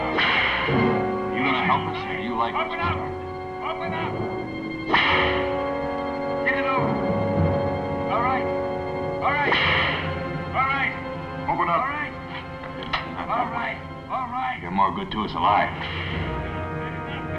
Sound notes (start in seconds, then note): 0.0 whip cracks; 4.8 whip cracks; 9.4 whip cracks